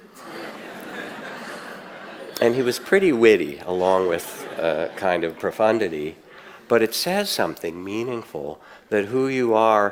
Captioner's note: audience laughs